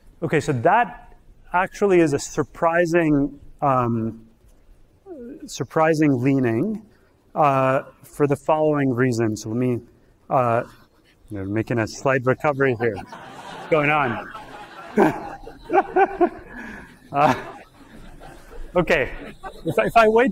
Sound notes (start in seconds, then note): 14.5 all laugh